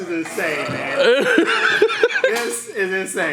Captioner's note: laughs loudly